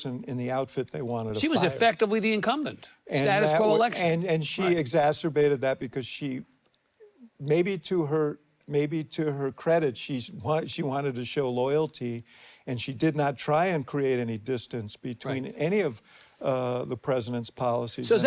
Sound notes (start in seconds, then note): none